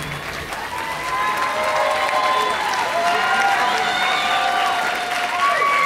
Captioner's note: audience cheering and applauding